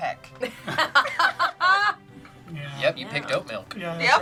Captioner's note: group laughs